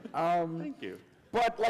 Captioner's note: laughter